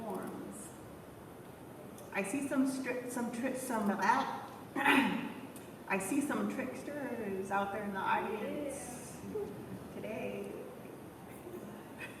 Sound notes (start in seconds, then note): 4.8 clears throat